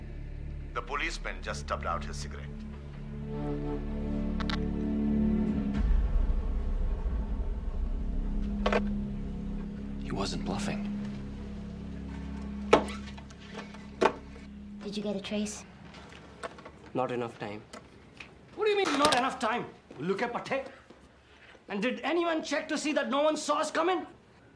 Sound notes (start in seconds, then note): 8.2 phone clatters; 19.6 speaking foreign language